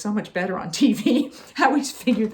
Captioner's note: chuckling